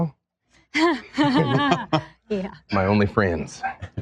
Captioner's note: laughs